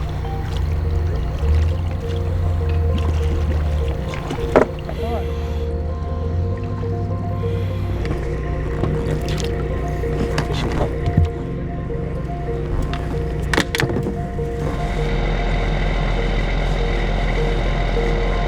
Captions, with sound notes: (suspenseful music) (divers chattering) A fishing rod. (engine rumbling)